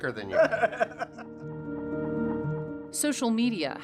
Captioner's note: laughs